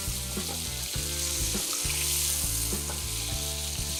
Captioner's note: beef sizzles